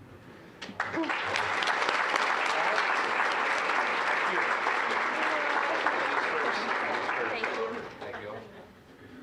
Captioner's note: applause